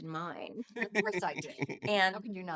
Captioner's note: laughing